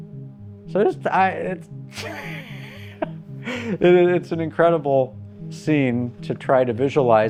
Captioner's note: laughing